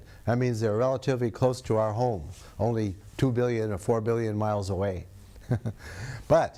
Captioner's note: laughs